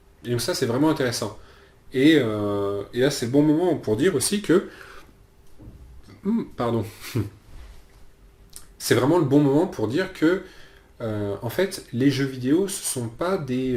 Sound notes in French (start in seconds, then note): 6.2 hum